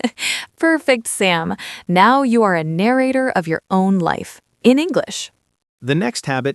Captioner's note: laughs